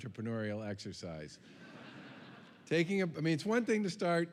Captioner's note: laughter